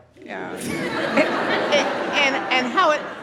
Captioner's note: audience laughs